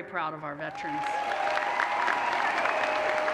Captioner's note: applause